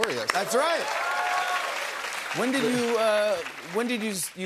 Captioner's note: cheers and applause